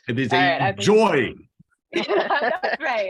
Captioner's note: laughter